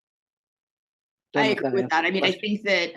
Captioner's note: speaking faintly